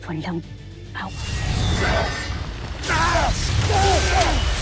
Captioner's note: powerful blast-crackle; weapon swoosh; growls; growls & groans; weapons clang-crackle